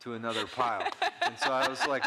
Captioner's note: laughing